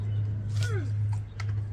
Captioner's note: grunts